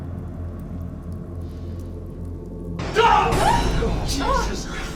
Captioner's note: Jody screaming